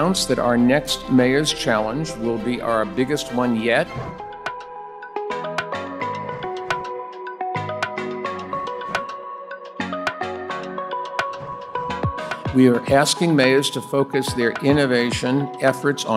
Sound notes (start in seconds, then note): 3.9 text whooshes; 4.9 gentle upbeat music